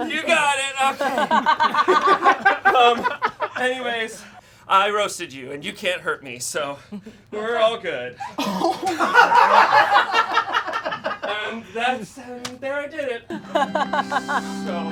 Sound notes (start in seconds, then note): 0.7 audience laughing; 8.3 audience laughing